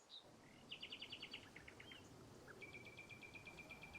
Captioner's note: birds chirping